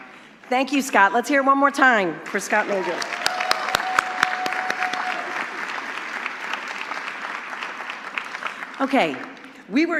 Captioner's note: applause